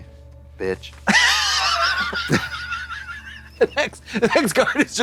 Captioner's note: blonde Women cachinnate